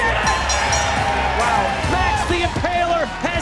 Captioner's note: crowd cheering; bell dinging